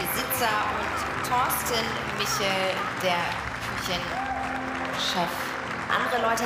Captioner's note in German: Jubel